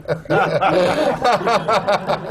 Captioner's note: laughter